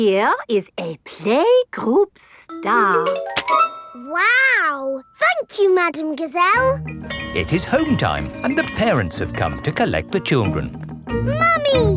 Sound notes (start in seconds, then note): 7.0 bell tolling